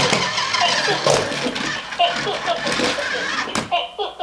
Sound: robot whirs

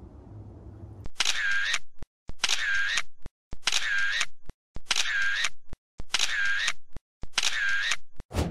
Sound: camera shutter sound

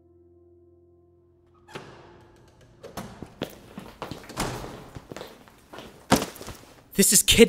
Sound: gates Locking

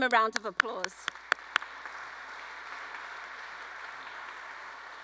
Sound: applause

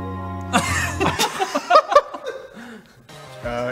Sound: all three laugh at face squish

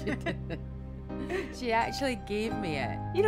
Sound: both laugh

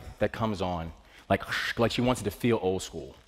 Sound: imitates record scratching

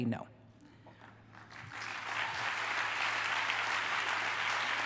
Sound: applause

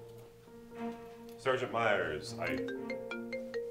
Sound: phone rings

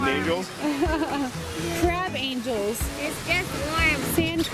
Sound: laughs

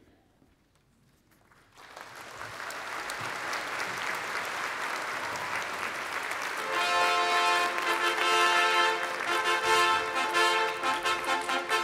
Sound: applause

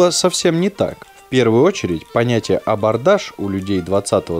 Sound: french

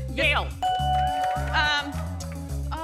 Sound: bell dings

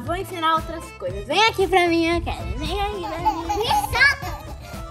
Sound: baby giggles

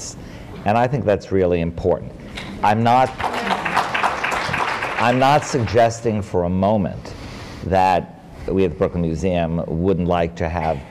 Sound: applause

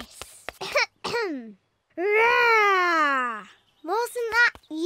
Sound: roaring

